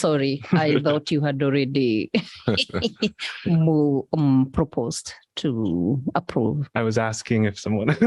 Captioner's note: laughter; laughter